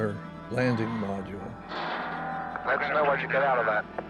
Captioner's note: clanks loudly